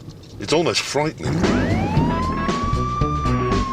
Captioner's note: vroom